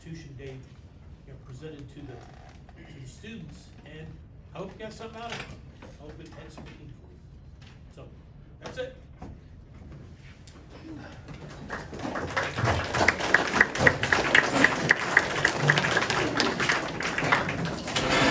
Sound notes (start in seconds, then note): 11.4 audience cheers and applause